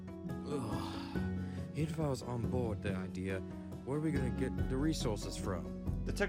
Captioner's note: groans